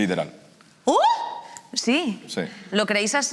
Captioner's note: shouts